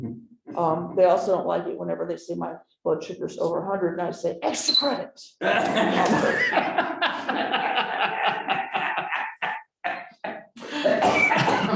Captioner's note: laughter